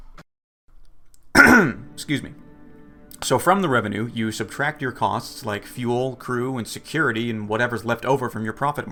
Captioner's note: clears throat